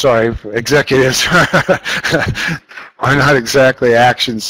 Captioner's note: laughs